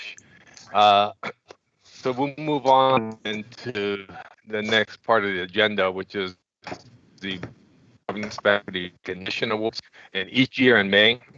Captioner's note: audio breaks up